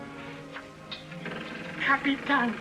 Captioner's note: door creaks